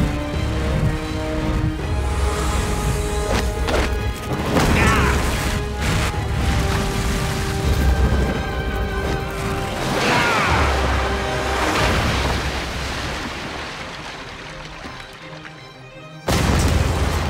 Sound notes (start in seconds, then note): 4.6 groaning; 10.0 screaming; 16.2 crashing